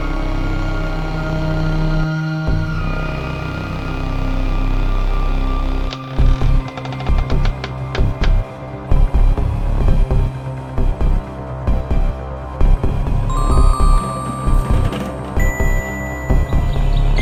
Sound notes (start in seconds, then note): 4.2 music picks back up to rhythmic, deep bass beats; 6.0 creaking sounds like a wooden coffin being opened; 13.3 chimes; 14.2 sounds of skull rolling around in box